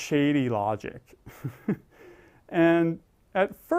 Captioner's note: laugh